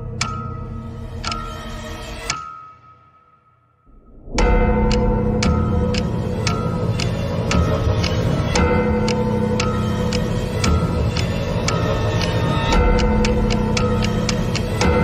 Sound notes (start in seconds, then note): none